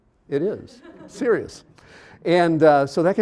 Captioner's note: audience laughing